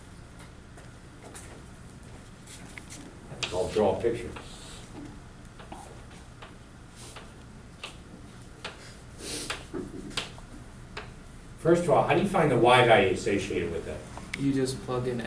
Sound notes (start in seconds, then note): 9.4 chalk clicking on board; 15.1 voiceover